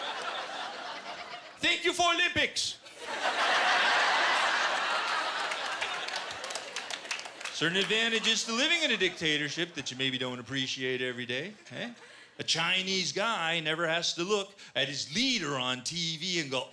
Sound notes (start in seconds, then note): 0.0 laughter; 2.8 laughter